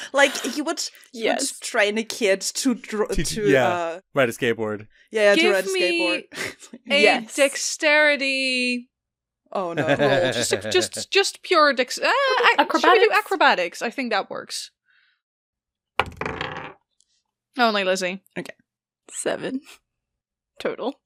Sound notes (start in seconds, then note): 9.6 Annie laughs; 16.0 dice thunks; 19.7 in a small voice